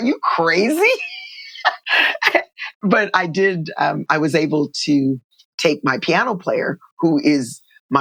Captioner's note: laughter